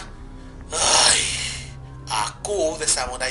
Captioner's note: annoyed groan